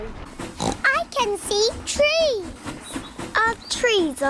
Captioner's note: oinks